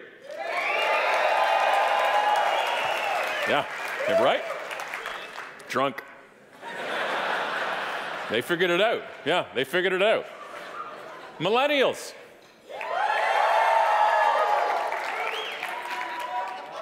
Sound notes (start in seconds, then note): 0.2 audience applauding and cheering; 6.6 audience laughing; 12.7 audience cheering